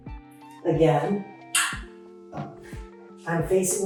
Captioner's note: metal chair clangs